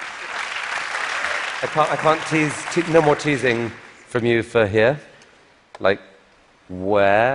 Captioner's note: applause